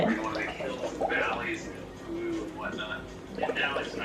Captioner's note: blowing bubbles